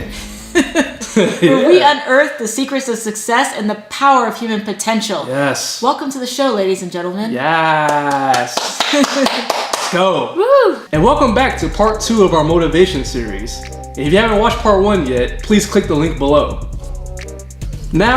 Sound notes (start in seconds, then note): 7.8 applause